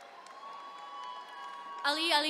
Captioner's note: attendees cheering